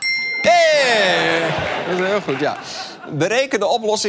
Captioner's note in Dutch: ping